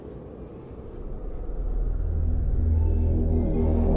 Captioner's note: wind howling